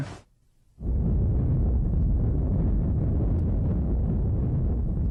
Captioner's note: explosion rumbling